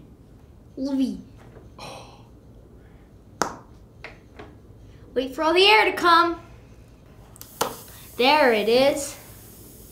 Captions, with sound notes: - La vee. (pop) Wait for all the air to come. (air hissing) There it is.